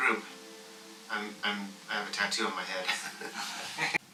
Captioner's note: laughs